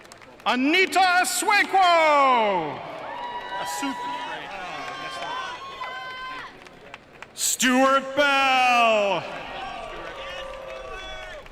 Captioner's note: cheering and applause